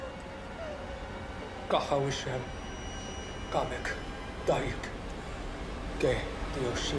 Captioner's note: suspenseful music; Louis speaking in foreign language